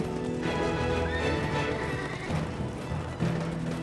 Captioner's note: horses whinnying